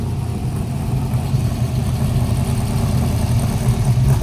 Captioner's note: motor rumbling